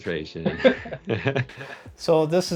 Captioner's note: both laughing